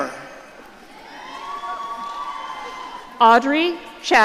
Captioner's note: audience cheering